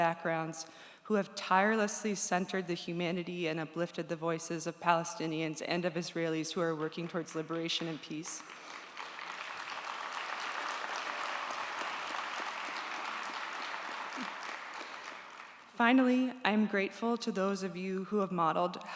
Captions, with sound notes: who have tirelessly centered the humanity and uplifted the voices of Palestinians and of Israelis who are working towards liberation and peace. (audience applauds) Finally, I'm grateful to those of you who have modeled how to hold space